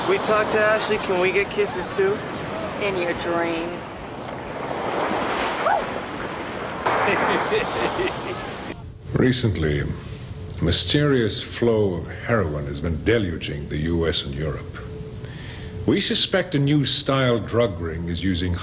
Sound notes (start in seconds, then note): 6.8 laughing